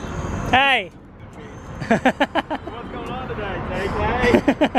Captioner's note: laughing